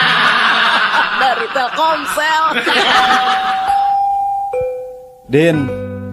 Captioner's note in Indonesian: tertawa